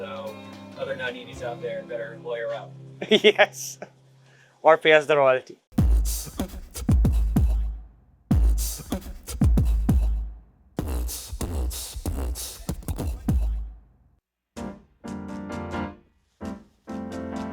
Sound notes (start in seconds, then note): 5.8 beat-boxing; 14.0 upbeat music